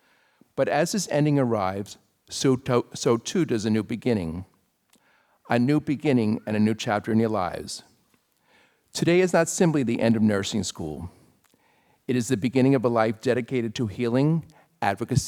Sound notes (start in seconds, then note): none